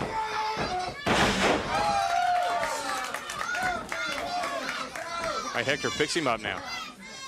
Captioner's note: crowd cheering